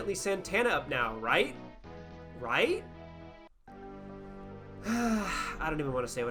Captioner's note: exhale